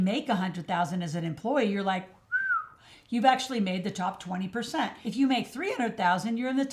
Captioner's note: whistle